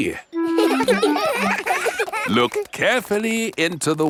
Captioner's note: children laughing; laughs